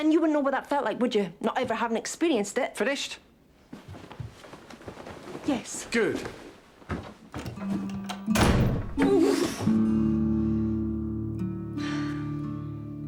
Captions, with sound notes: But then you wouldn't know what that felt like, would you, not ever having experienced it. - Finished? - Yes. - Good. (door slamming) - Ooh! (gentle music)